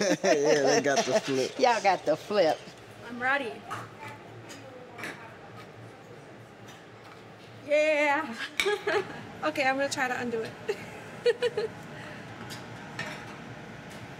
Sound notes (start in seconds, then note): 8.1 laughs; 11.2 laughs